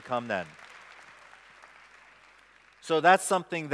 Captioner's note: applause